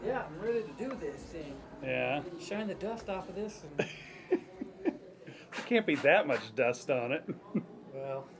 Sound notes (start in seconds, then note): 5.4 laughing